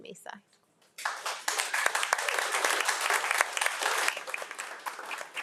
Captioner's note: audience applauding